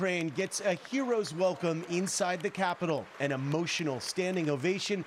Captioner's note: applause